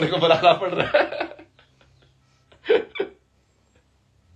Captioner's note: हंसी